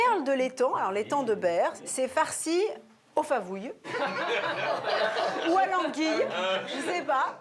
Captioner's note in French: rires